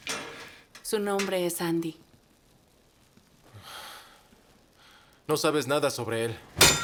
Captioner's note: sighs